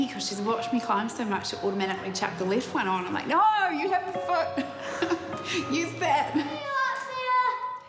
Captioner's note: chuckles